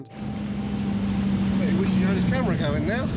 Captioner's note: boat engine revving